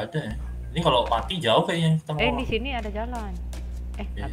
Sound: none

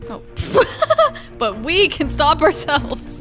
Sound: laughs

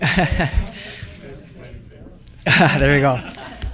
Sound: and board members laugh

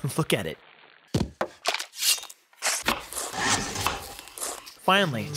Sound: rhythmic chopping

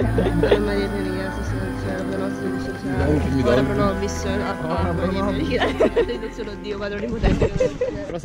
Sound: mumbling prayers

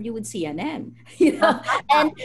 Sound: laughter

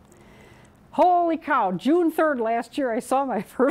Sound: chuckling

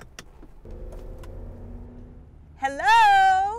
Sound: engine hums

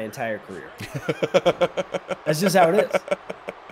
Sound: laugh

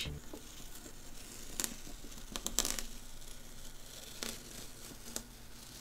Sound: tape peeling from paper

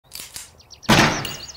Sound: cocking of handgun; gunshot + bullet shell hitting floor

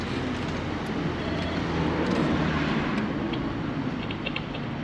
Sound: doorbell ringing

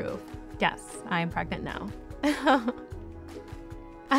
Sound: laughter

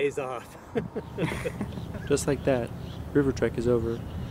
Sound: laughter

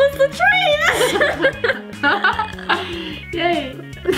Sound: laughter

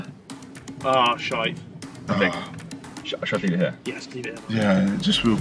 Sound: team mumbling

